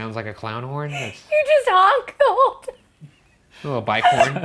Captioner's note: laughing